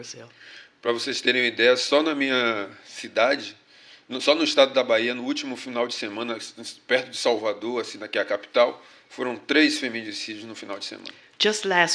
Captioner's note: speaking portuguese